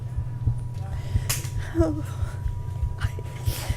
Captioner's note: scared